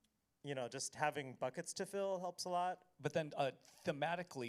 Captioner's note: none